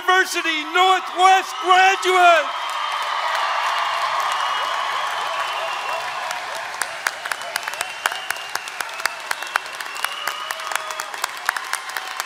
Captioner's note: applause